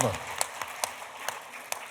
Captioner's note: applause